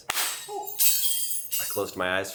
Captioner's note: glass shattering